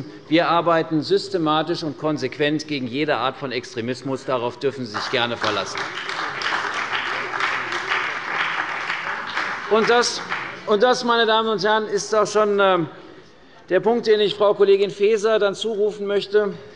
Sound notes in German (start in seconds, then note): 4.9 Beifall bei der CDU und dem BÜNDNIS 90/DIE GRÜNEN